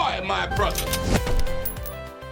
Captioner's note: happy music; loud gun shot